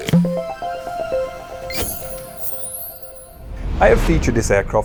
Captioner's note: playful chime